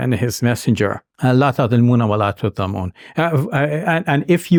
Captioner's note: speaks in Arabic language